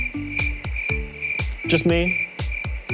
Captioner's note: crickets chirping